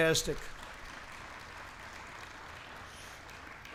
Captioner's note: applause